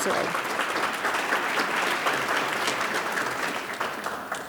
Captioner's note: audience claps